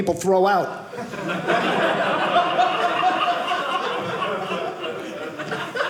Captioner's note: audience laughing